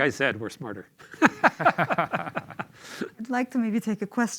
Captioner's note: laughter